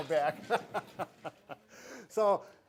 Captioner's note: both laugh